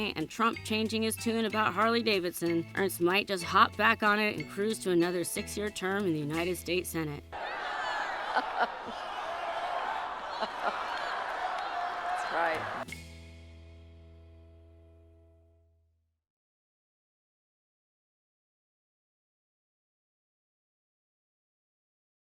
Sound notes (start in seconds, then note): 7.3 crowd cheering; 8.1 Ernst laughs; 9.1 crowd cheering